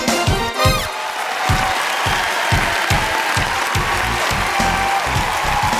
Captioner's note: cheering